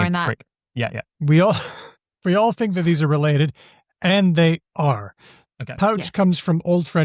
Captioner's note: chuckles